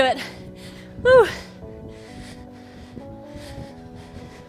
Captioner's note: breaths heavily